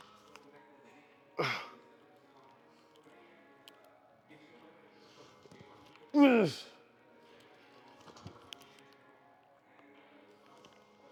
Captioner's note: grunts